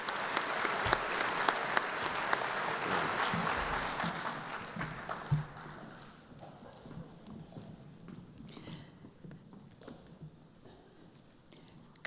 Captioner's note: applause